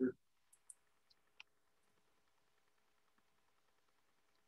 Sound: mouse clicks

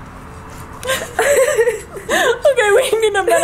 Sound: laughing

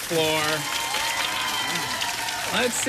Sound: cheers and applause

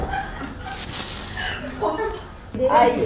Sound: rummaging

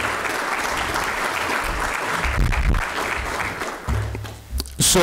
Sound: applause

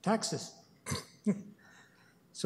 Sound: chuckles

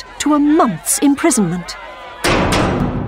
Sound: the clanging of a prison door

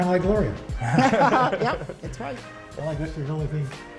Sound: laughter

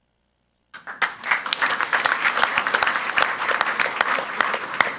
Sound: crowd clapping

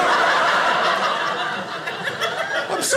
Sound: audience laughing

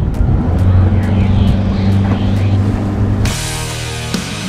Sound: boat engine revs; upbeat rock music

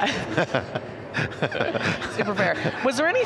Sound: everyone laughing

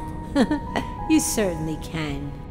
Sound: giggling

